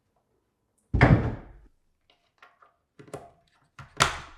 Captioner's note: cabinet thudding